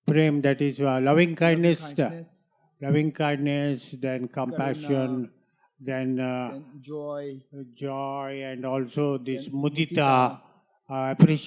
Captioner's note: sanskrit